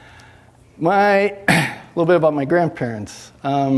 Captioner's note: coughs